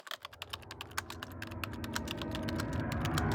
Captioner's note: typing